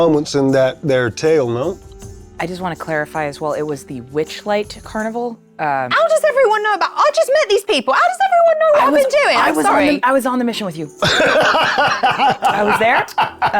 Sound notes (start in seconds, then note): 11.0 laughing